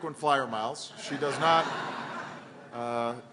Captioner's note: laughter